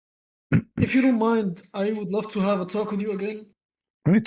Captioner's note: clears throat